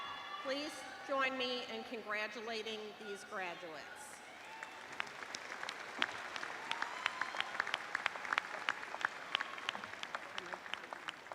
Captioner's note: applause